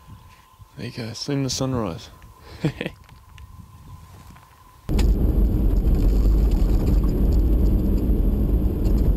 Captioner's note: laugh